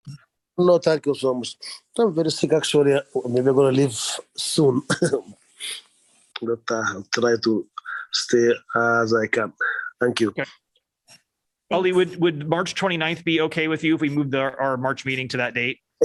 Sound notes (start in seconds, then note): 4.9 laughter